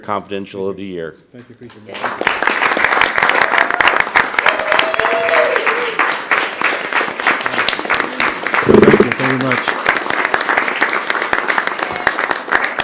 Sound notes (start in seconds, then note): 8.6 applause